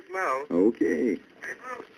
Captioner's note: on phone